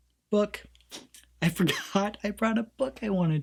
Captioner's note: laughs